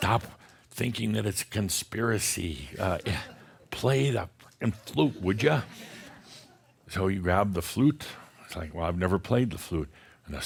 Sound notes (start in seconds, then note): 4.7 more chuckles